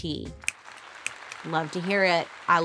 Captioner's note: crowd applauding